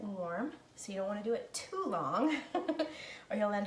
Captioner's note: laughing